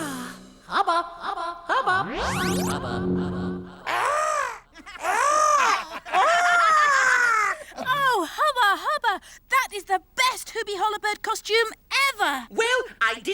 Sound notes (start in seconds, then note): 1.8 warping sound; 1.8 echoes; 3.6 Hubba imitating Hoobie Hollowbird; 4.8 all laugh